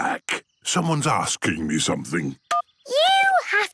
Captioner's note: phone beeps